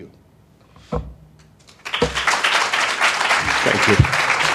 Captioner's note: applause